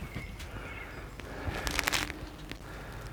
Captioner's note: crackling